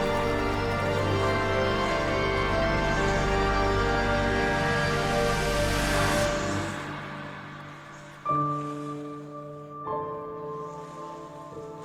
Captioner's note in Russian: аплодисменты; ликование